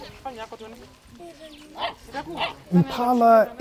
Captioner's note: barking